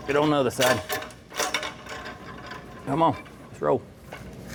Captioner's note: metal Clanking